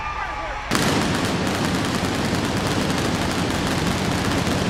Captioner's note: explosions booming